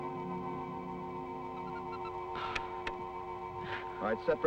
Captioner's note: dramatic music; Joe chattering